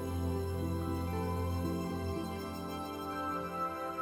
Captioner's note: none